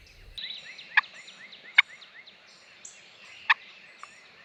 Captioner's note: turkey calls